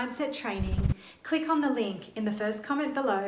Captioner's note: icons whooshing